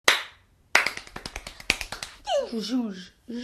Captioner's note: clapping